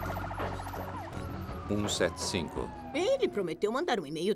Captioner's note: sirens blaring